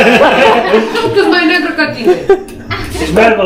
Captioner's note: laughing